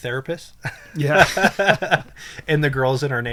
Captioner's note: laughs